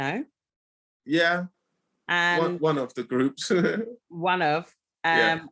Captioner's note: laughing